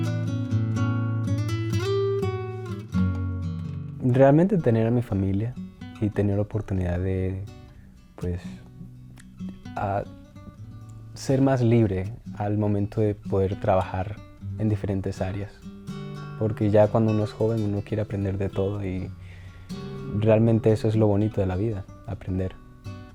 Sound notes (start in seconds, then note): 1.4 gentle guitar plucking; 8.5 continues speaking Spanish